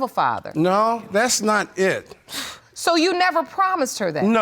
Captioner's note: exhales